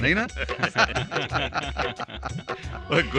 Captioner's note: laughing